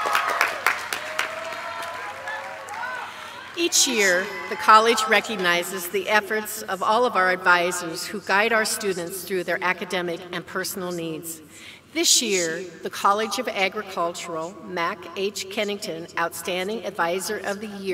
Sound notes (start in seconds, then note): 0.0 applause